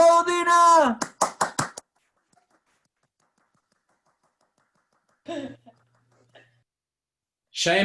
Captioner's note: applause